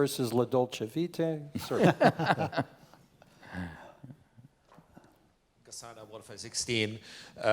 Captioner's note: laugh